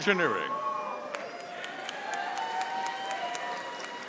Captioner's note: audience applauding